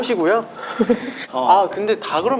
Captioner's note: laughing